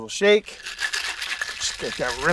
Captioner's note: ice rattling